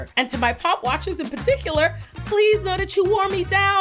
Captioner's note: none